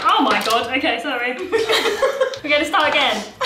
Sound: laughing

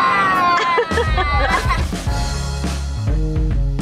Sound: laughs

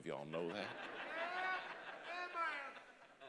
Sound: congregation laughing

